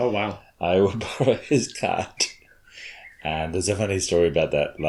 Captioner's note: chuckles